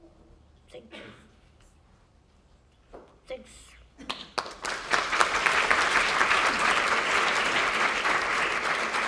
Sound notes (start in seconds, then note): 2.4 applause